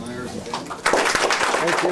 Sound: applause

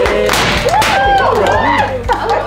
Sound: pops; cheers and applause

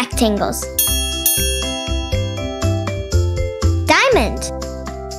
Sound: bell dinging

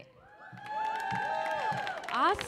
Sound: audience cheers

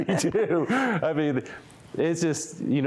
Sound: laughter

